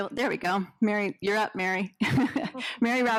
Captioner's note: laughs